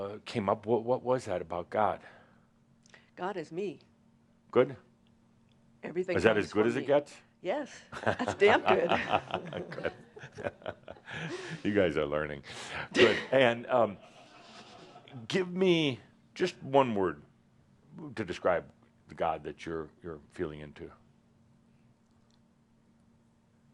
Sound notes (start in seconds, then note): 8.0 they chuckles